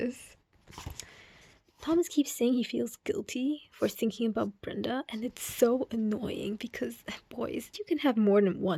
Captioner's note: angry book grabbing noise